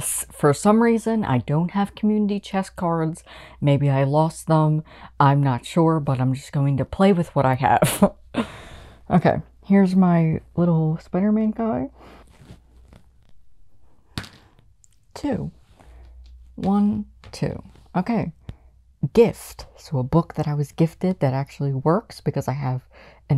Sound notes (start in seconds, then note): 7.8 laughter; 11.7 dice hitting the board